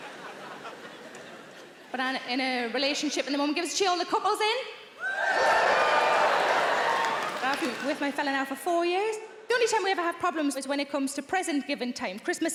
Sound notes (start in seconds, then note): 5.0 audience cheering